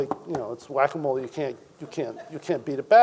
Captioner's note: audience member chuckles